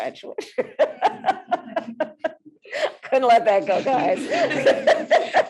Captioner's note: laughs; laughs